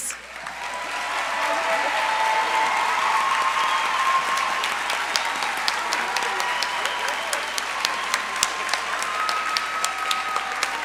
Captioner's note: applause